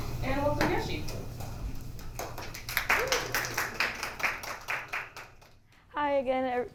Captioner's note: applause